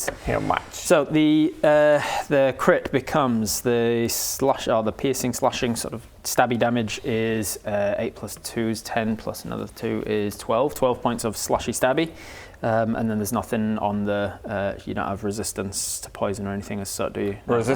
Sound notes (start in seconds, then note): none